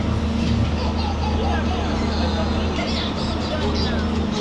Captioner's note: baby laughing